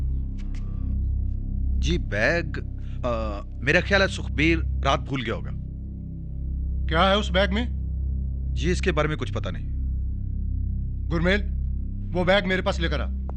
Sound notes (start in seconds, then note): none